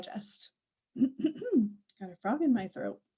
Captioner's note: clears throat